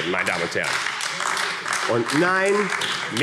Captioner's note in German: Beifall AfD